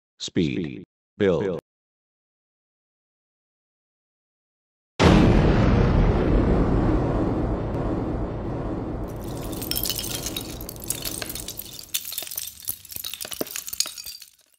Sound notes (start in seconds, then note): 5.0 explosion; 9.2 Sound of LEGO pieces falling